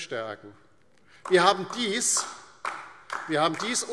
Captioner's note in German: Beifall DIE LINKE